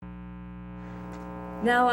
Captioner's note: electronic static